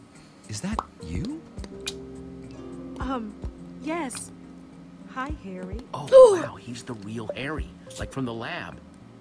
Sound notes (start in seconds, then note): 6.1 Sabrina gasps